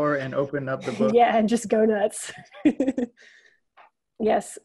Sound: laughs

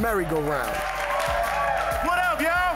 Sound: cheers and applause

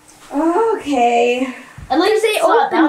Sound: exasperated sigh

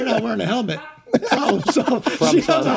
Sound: distant laugh

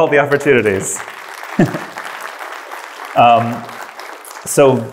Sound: audience applause

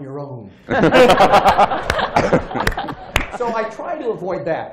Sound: laughter

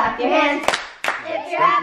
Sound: clapping

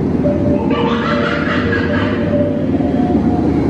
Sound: monkey sounds

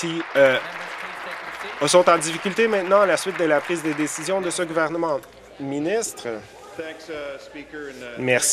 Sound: applause

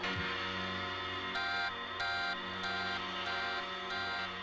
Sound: alarm

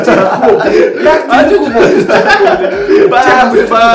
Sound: laughter

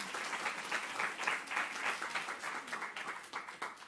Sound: applause

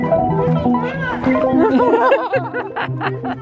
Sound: laughing

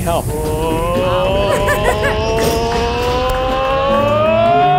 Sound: guests cheering

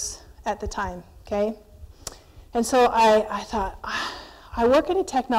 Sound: sigh

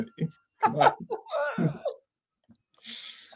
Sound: they laugh

